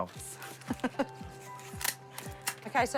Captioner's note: chuckles